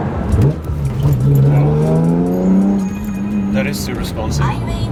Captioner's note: engine revving